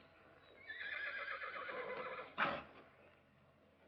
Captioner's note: horse whinnies